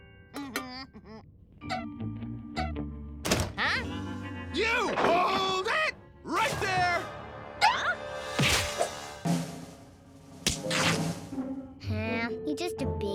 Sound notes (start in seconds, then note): 0.8 Milo gasps